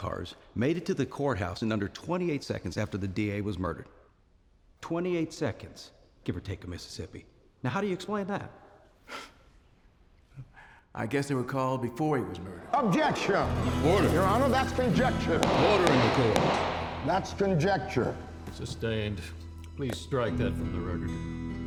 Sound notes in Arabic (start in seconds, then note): 8.9 سخرية; 12.6 يتمتم الناس بصوت عالٍ